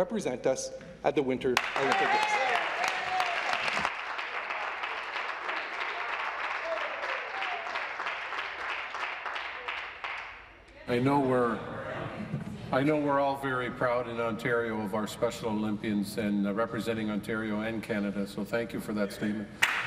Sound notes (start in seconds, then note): 10.4 cheers/Applause